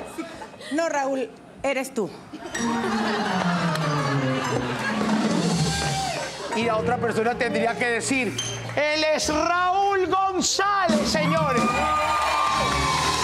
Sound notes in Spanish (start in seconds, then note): 2.3 Risas